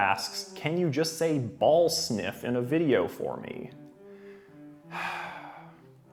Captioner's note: sigh